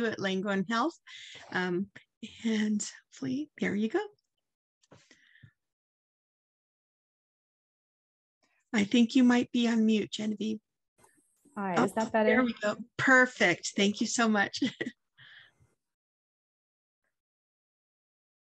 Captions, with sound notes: at Langone Health. And there you go. I think, you might be on mute, Genevieve. All right, is that better? There we go. Perfect. Thank you so much. (chuckles)